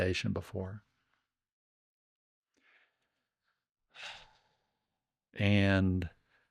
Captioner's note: sighs